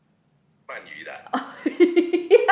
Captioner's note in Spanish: en chino; risas